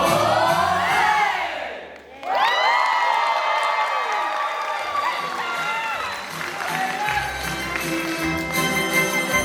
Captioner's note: applause